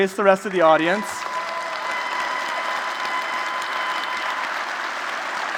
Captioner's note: applause